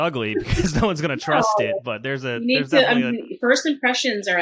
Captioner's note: laughs